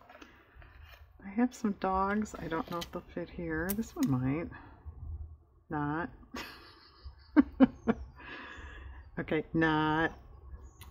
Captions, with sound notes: i have some dogs i don't know if they'll fit here this one might... not (laughs) okay, not